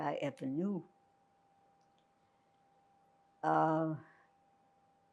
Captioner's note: pauses 6 seconds